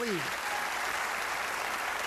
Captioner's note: applause